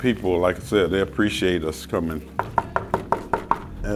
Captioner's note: knocking